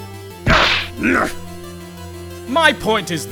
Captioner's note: flustered grunt